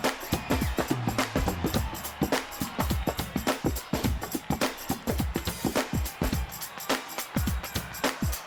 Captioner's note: crowd cheering